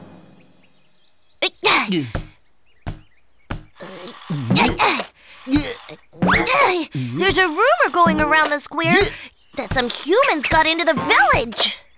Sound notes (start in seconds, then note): 0.3 birds chirping; 1.8 gasping, grunting